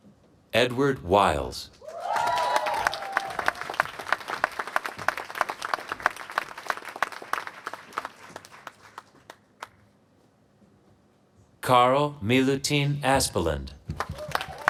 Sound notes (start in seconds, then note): 1.8 applause; 13.9 applause